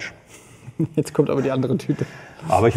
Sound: laughs

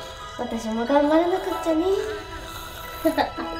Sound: internal monologue

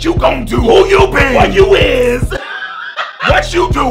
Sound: laughs

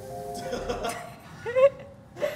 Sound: crew member laughs; laughs

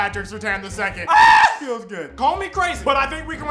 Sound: screams

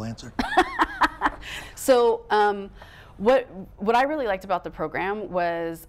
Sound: laughing

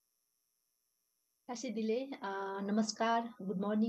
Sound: speaking foreign language

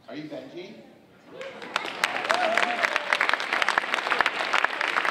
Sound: audience applauding

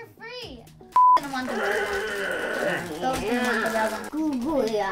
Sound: dad growling

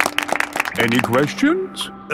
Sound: all clapping

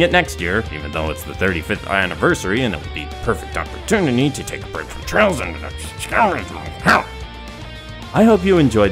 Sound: grumble grumble

